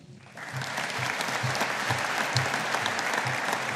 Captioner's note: audience applauding